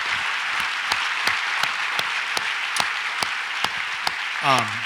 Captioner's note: audience applauds